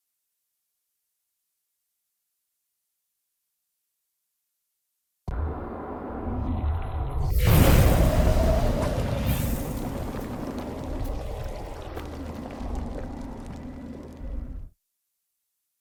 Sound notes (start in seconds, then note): 5.7 energetic tones; 5.7 water sloshing; 9.3 wind whooshing